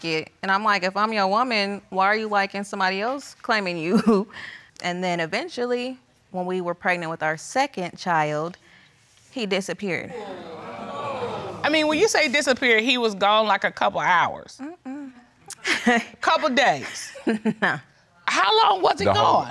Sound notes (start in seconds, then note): 10.1 audience groaning; 15.2 chuckles